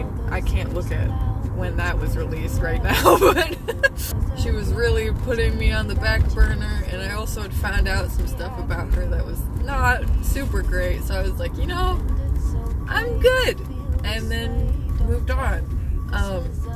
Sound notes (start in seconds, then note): 2.9 laughter